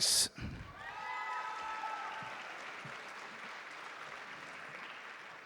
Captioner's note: audience clapping